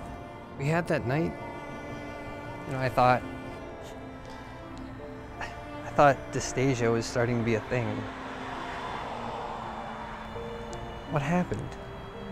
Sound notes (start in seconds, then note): 5.0 scoffs